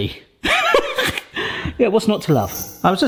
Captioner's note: laughing